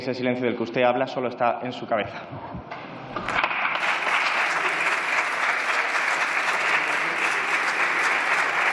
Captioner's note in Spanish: Aplausos